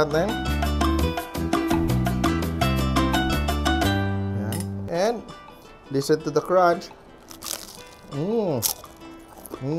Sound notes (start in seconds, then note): 7.2 Crunch